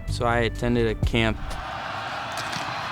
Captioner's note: crowd cheers